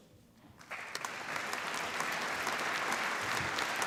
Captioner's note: applause